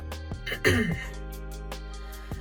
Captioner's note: clears throat